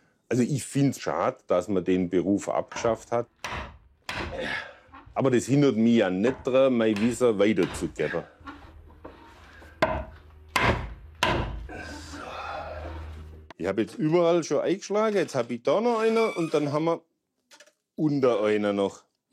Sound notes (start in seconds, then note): 4.3 he groans; 11.7 puffing softly